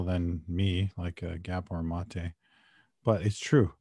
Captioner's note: speaking Indigenous Language